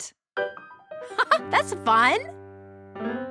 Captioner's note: laughs